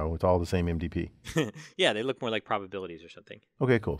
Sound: laugh

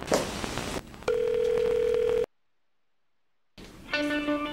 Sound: ringing

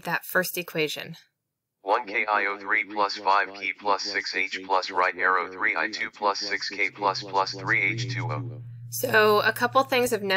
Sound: text-to-speech reader reads texts

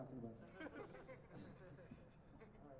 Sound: laughter

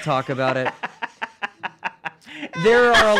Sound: laughing

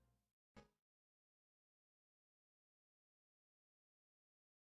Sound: silence

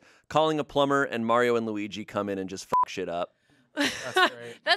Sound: beep

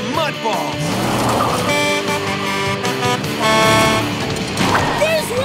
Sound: Blaze honking

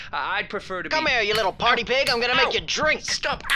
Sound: slapping noises

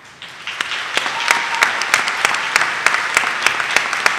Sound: audience applauding

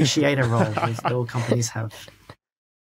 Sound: others snickering

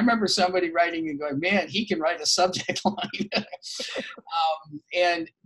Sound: laughs

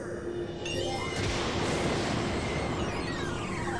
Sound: thunder

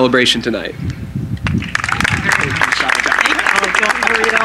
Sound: applause

